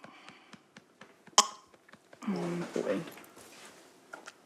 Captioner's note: chokes